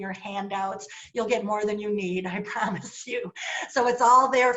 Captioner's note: laughter